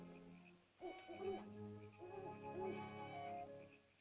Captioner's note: ominous music; soft ominous music; owl hoots; soft ominous music